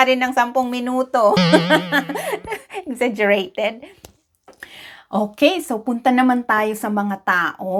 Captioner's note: laughing